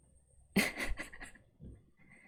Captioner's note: laughs